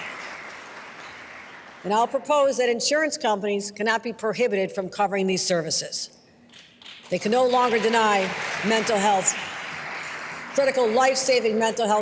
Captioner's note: applause